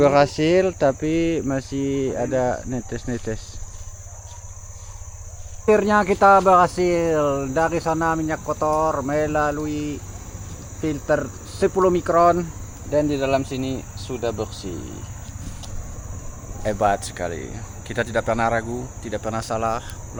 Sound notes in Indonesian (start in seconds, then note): none